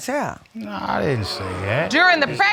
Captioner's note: audience exclaims